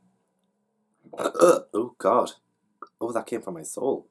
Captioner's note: burp